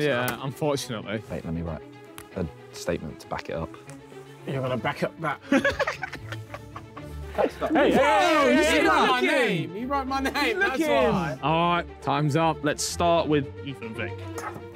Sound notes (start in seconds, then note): 5.4 Tobi laughing; 7.8 men chattering